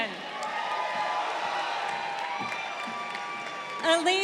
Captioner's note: crowd cheering